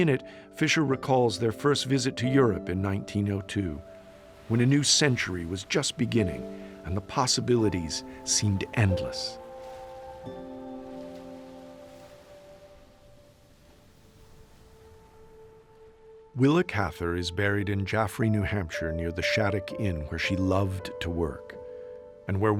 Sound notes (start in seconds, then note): 9.8 waves washing beach